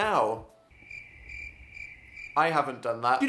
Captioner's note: crickets sound